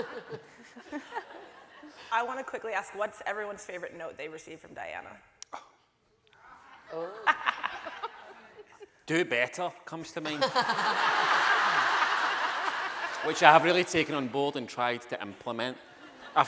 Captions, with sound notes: - I want to quickly ask what's everyone's favorite note they've received from Diana? (laughing) - "Do better," comes to mind. (audience laughing) Which I have really taken on board and tried to implement.